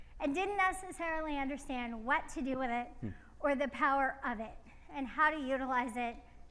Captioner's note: none